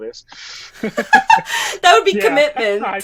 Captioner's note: both laughing